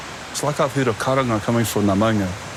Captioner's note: calling